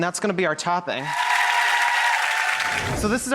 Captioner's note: audience cheering